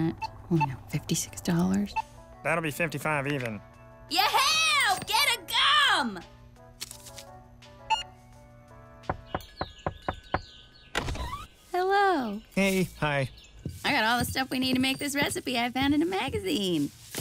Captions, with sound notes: I only have 56 dollars… That’ll be 55 even. Ye-heea! GET A GUM! (beeps) (knocks) Hello. Hey. Hi. I got all the stuff we need to make this recipe I found in a magazine!